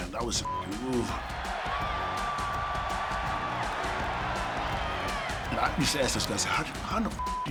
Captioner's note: applause